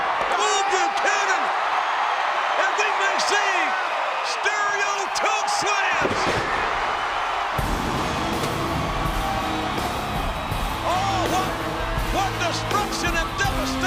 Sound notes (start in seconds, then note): 3.0 presenter speaking faintly off mic; 8.1 crowd cheering; 8.1 upbeat music